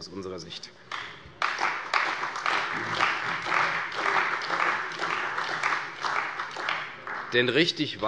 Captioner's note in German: Beifall bei der CDU und dem BÜNDNIS 90/DIE GRÜNEN